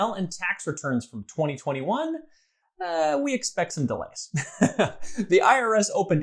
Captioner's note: chuckles